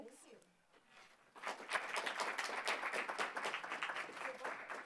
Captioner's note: applause